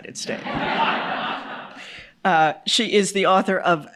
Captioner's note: audience laughs